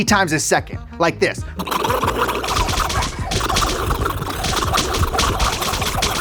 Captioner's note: making hitting sounds with mouth